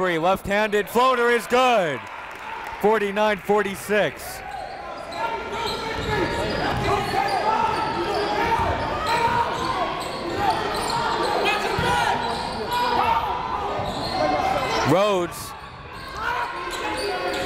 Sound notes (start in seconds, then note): 5.0 coaches yelling; 6.0 crowd talking